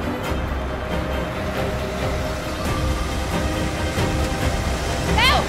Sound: car engines

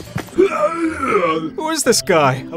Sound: man grunting

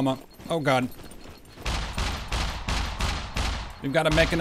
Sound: mech Gunshots

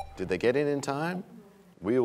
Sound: bell chimes, time expires

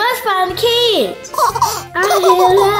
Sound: laughing

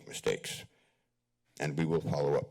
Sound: pause

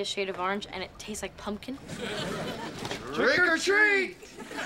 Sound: audience laughing

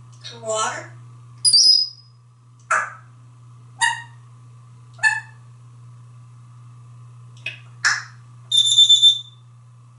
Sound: tweets and whistles

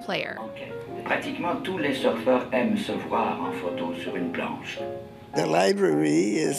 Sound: non-english speech

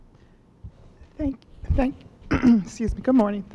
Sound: clears throat

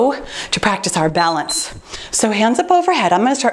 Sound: timer beeps

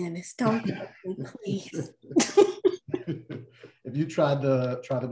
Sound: laughter

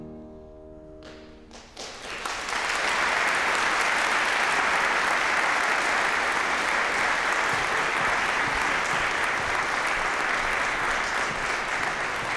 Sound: applause

